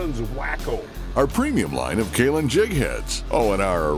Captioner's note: voiceover